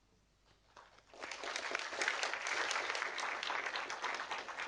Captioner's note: audience applauding